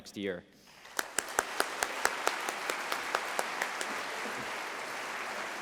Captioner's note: applause